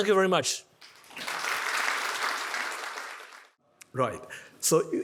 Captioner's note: attendees applauding